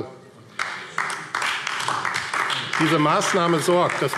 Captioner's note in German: Beifall AfD